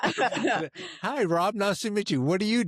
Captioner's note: laughing